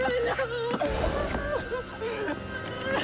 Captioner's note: gunshots